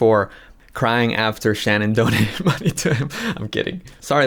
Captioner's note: laughs